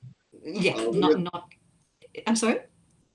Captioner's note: mumbles